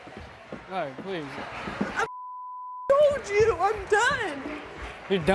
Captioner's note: beep